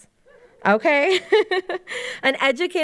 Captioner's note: laughs